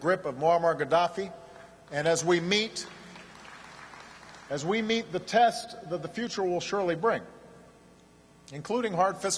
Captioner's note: applause